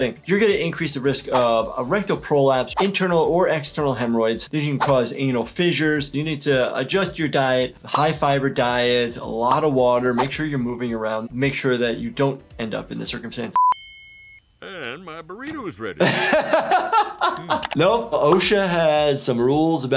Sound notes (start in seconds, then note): 16.2 laughing